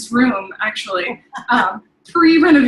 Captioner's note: laughing